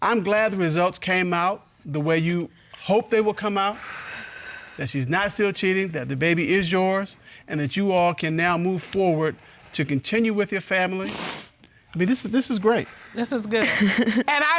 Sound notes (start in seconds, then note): 11.0 sniffling; 13.6 chuckles